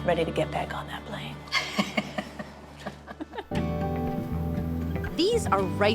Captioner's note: laughs